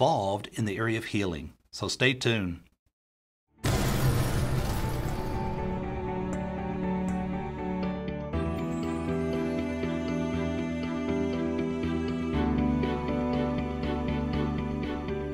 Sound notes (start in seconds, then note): 3.6 glass shattering; 3.7 fire thundering; 5.9 gentle music